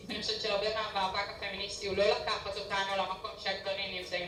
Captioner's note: speaking foreign language